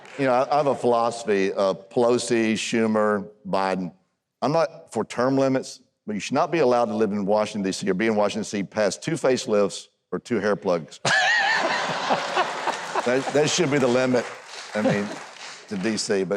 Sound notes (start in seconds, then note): 0.0 audience laughs; 11.0 Huckabee and Audience laughs